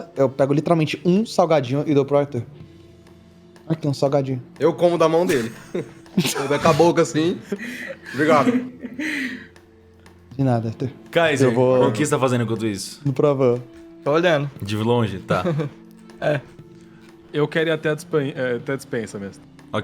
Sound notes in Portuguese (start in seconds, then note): 5.2 risadas